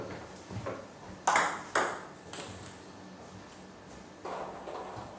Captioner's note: balls ping pong hitting continues